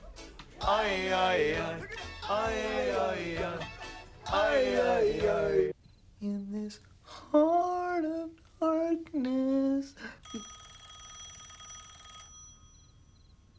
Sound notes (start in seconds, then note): 10.2 telephone rings